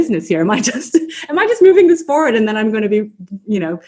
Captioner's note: laughs